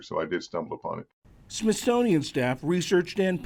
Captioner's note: voice-over